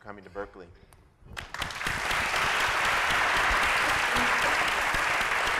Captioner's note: applause